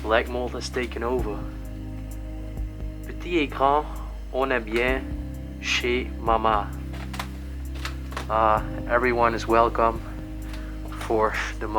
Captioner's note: reading in French